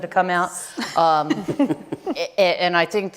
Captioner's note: laughter